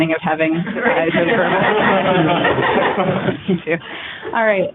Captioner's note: laughter